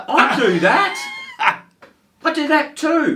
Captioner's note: laughs